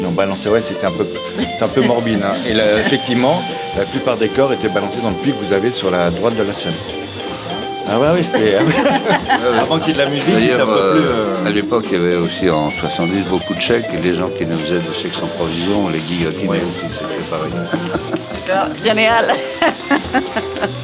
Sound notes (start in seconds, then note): 16.4 laughs